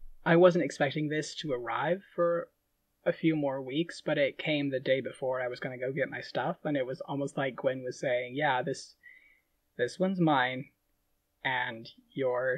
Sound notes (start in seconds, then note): none